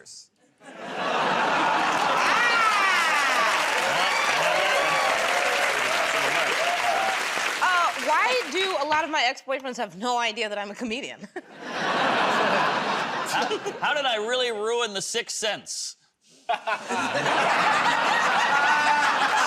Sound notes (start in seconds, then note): 0.5 laughter; 4.1 cheers and applause; 11.2 laughter; 11.3 chuckles; 16.4 laughter; 16.5 laughs